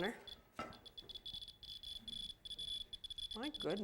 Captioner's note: fast beeping